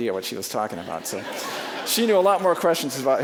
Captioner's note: audience laughing